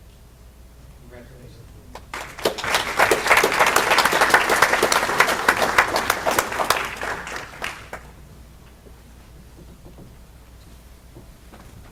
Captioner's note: applause